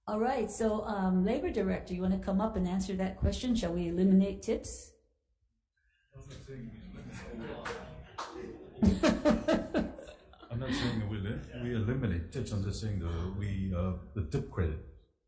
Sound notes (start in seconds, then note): 6.9 laughs